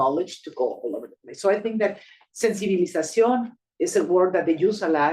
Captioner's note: speaking Spanish